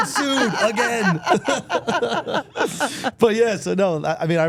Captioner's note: everyone laughing